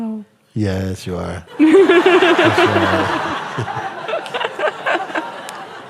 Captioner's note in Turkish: gülüşler